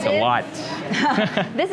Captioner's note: chuckles